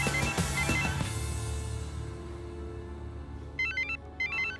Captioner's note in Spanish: Suena el teléfono